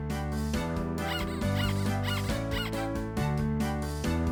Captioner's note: squeaking